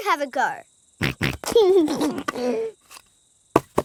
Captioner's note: snorts and laughs